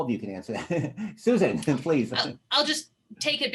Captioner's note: laughter